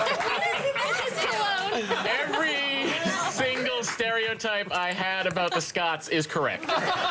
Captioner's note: applause; laughter